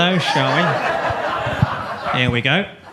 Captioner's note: audience laughs